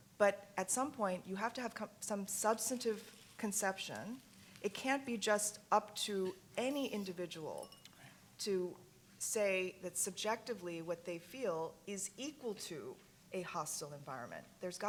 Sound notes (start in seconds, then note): none